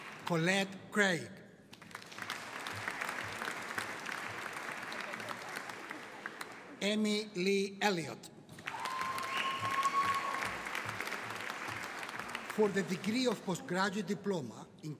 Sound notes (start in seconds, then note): 1.8 audience applauding; 8.6 audience cheering